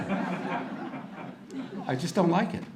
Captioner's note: audience laughter